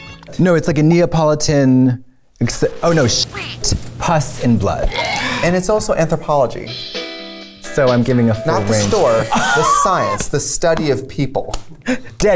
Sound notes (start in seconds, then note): 4.8 wretching; 9.2 laughs